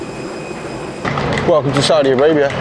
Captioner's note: plane whirring